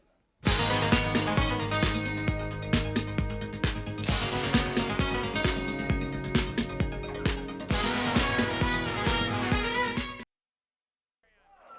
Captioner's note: crowd cheering